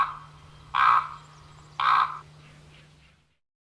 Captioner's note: bird calls